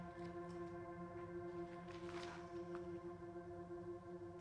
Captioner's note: book rustling